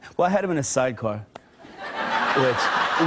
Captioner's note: laughter